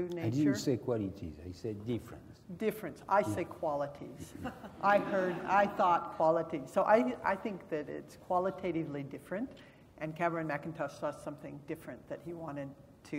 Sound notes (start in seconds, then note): 4.2 laugh